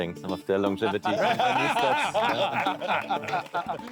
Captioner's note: laughing